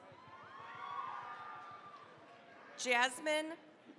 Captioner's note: cheering, applause